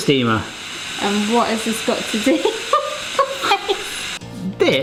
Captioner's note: chuckles; upbeat music